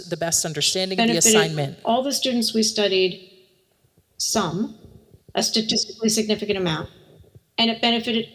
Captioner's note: recording plays